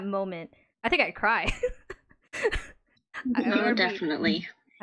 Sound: laughs

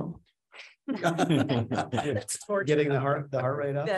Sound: laughing

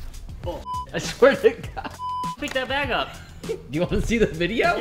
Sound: beep

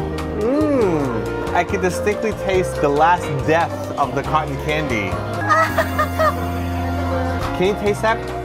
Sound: tearfully

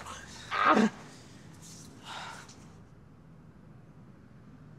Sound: groans

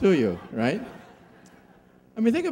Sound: laughing

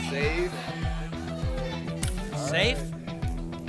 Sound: audience shouting icons

